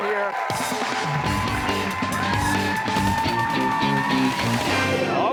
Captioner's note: cheers and applause